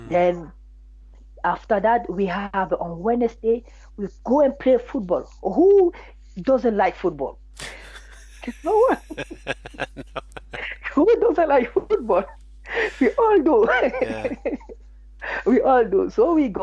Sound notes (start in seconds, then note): 7.6 both laughing; 12.6 laughs